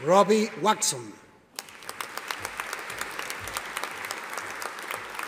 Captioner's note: audience applauding